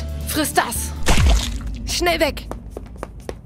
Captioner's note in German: Flatschen; Schrittgeräusche